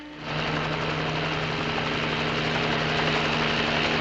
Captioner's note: helicopter